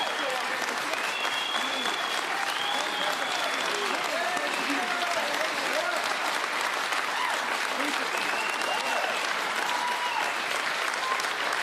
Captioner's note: cheering and Applause